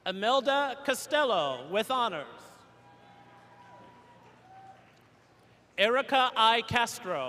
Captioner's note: cheers and applause